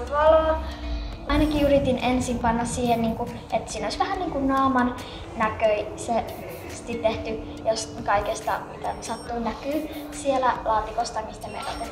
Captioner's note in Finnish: lapsen ääni; lapsen ääni